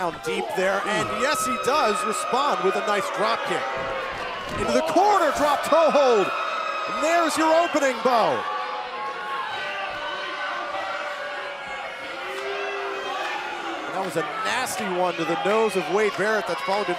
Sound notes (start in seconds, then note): 12.1 crowd chatter